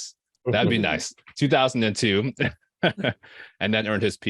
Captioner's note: chuckling